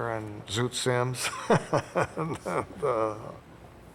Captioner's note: laughs